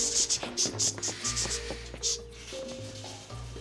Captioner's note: shower starting